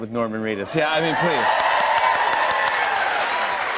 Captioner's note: cheers and applause